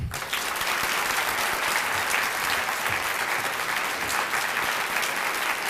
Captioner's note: applause